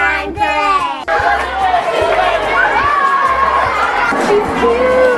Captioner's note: loud applause